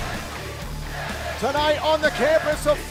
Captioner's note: fans chanting